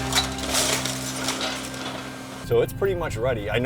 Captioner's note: windows breaking